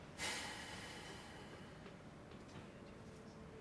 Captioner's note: deep exhaling